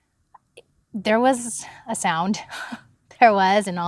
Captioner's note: chuckles